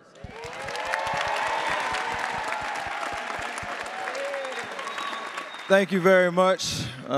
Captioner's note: attendees applauding and cheering